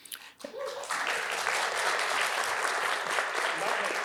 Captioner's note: attendees claps